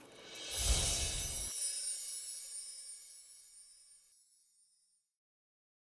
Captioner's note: air whooshes; wind chime music